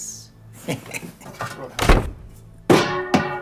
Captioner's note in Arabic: ضحكة مكتومة